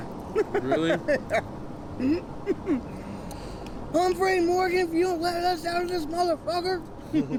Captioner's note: laughing